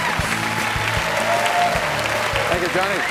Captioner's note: cheers and applause